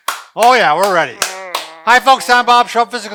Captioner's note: clapping